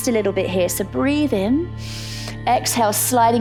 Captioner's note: inhales